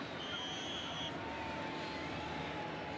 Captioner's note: whistle